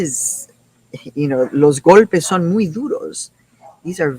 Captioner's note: speaking in foreign language